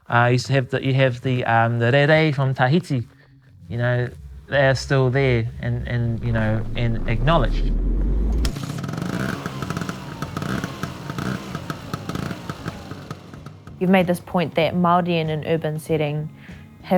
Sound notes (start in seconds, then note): 8.6 bike sputtering